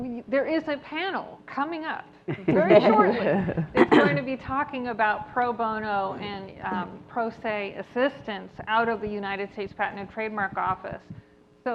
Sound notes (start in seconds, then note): 2.3 panelists laughs